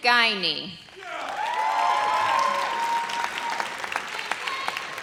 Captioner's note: audience cheers